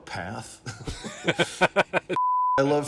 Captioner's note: laughing